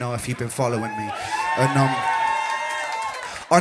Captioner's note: crowd cheers